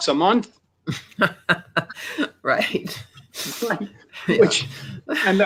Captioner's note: laughs